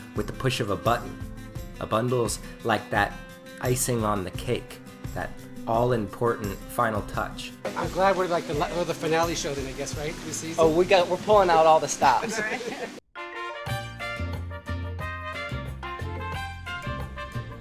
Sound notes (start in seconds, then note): 12.0 laughing; 13.2 traditional Mexican music